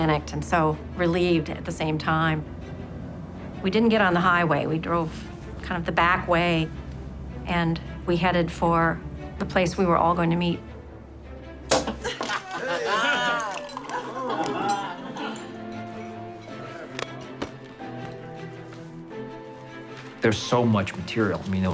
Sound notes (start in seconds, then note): 11.6 champagne cork pop; 11.9 laughing